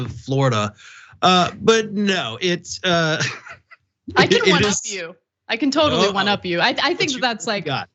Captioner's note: laugh